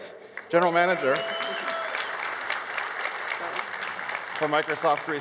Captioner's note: cheers and applause